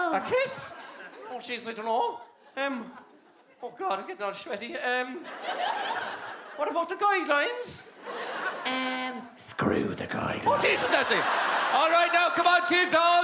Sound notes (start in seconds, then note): 4.4 Cork Accent; 6.7 Cork Accent; 8.7 little girl's voice; 10.7 demonic Voice; 12.1 Cork Accent